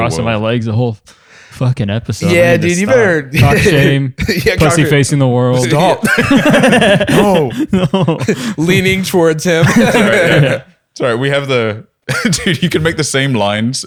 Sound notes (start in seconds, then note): 5.9 laughter